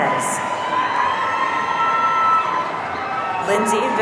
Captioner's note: audience cheering